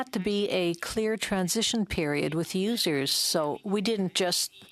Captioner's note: speaking French